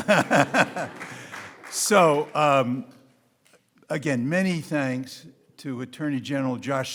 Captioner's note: laughs